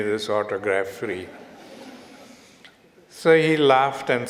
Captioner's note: audience Laughter